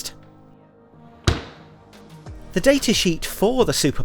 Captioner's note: freezer lid thuds